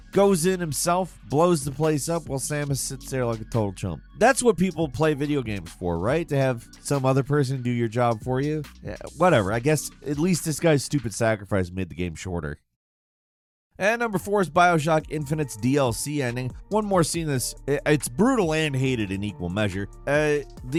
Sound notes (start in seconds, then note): none